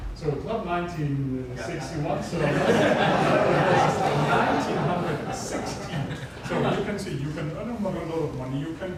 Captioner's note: audience laughter